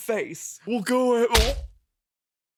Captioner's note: punch sound